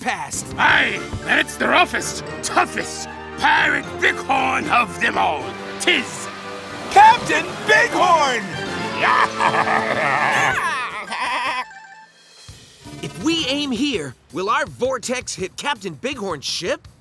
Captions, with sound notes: Aye, and it's the roughest, toughest pirate bighorn of them all. 'Tis Captain Bighorn! [pirate laugh] [laughing] If we aim here, will our vortex hit Captain Bighorn's ship?